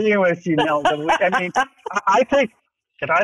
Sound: laughs

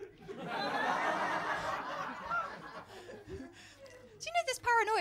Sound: laughter

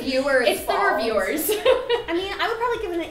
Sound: laughing

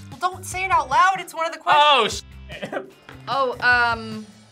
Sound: laughs

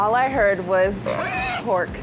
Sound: pig squeals

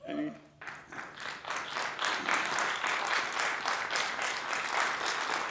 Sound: applause

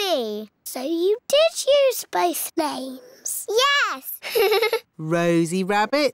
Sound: laughs

